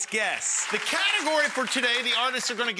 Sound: audience clapping

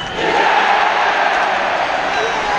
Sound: cheering

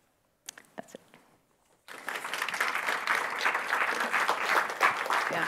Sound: audience applauding

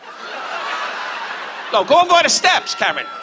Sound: audience laughs

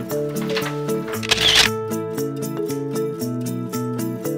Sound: shutter click

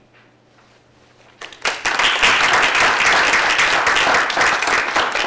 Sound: applause

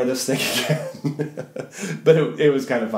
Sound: laughs

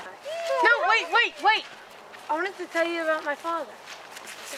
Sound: students scream

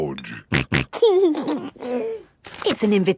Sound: snorting and giggling

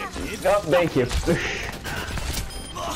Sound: laughs

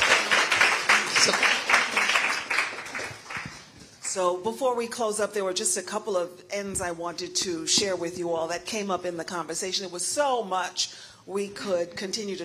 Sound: applause

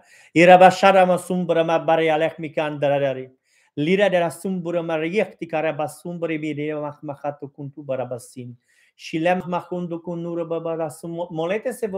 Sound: praying in tongues

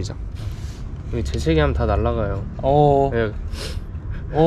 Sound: sniffing

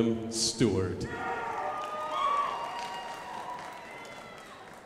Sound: crowd applauding

